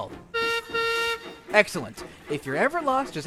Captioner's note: peter sam whistles